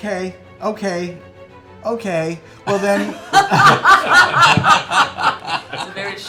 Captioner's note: laughter